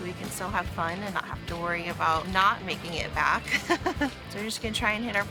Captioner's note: laughs